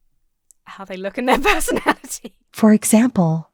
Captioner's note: laughs